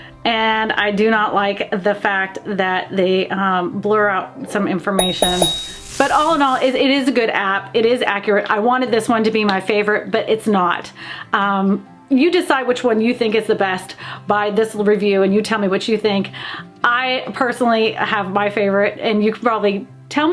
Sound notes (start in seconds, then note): 5.0 bell dinging